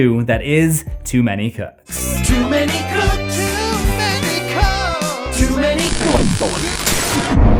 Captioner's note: static; impact